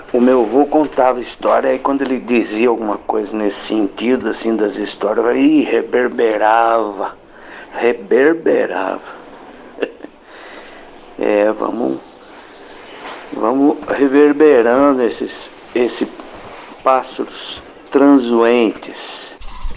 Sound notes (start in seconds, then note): 9.6 laughs